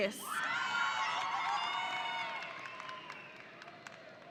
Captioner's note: audience cheering